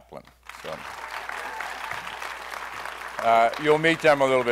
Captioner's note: applause